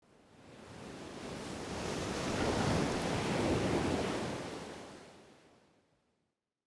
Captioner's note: waves crashing